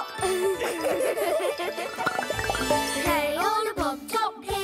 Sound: laughing

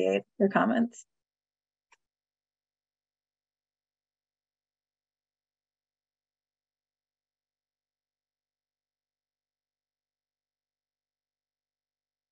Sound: silence

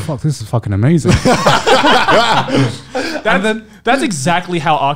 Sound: laughing loudly

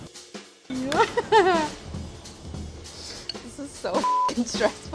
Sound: laughs

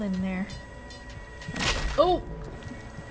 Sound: smack!

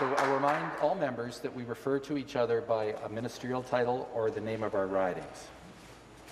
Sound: some Applause

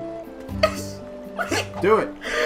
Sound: sobs

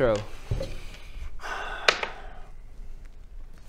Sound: sigh

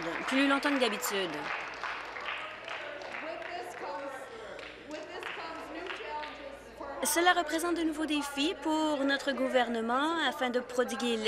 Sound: applause

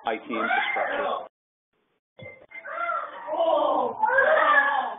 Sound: muffled screaming

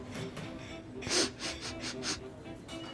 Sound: sniff sniff sniff

